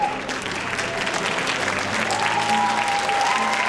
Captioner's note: cheering